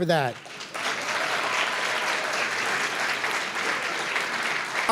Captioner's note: applause